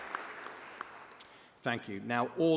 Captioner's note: applause